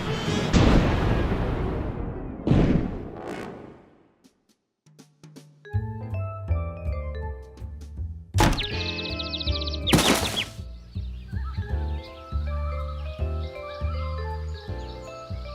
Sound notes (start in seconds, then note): 8.4 birds chirping